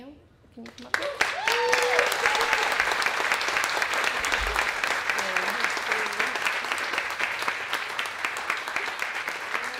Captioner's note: applause and Cheering